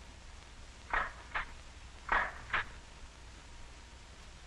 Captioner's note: machine snapping